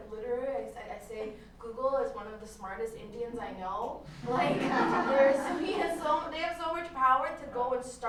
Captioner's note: laughter